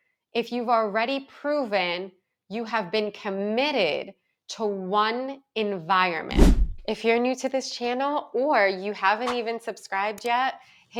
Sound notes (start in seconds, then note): 6.3 audio whooshes